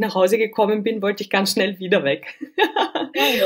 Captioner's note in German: lachen